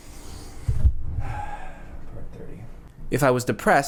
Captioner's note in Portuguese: suspira